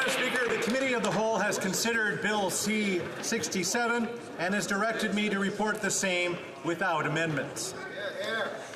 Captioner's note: cheering and Applause